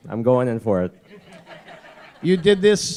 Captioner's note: laughter